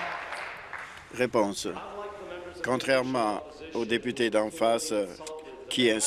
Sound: applause

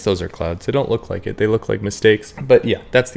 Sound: womp womp

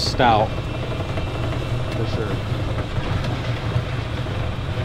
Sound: machine whirring

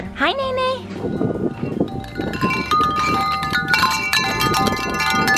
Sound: wind chimes clinking

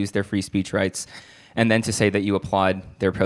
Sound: none

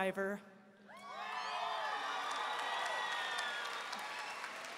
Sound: audience applauding

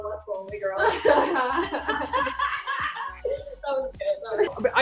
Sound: laughs

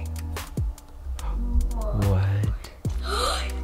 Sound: inhales

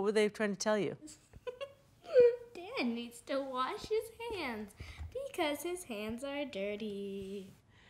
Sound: laughs

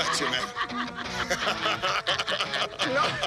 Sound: laughter

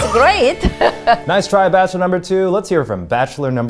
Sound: upbeat music; giggles

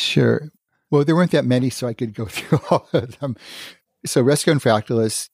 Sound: laughs

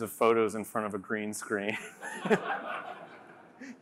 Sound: laughter

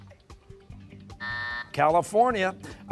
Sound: buzzer

